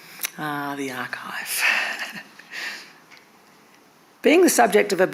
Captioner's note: chuckles